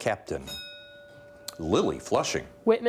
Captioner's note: bell dinging